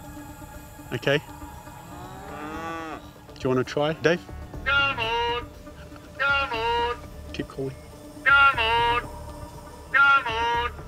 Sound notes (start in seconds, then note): 1.5 cattle bellows